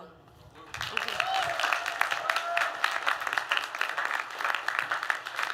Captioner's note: applause